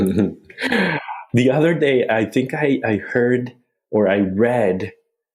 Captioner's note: laughs